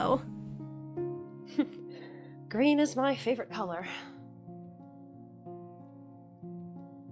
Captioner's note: chuckles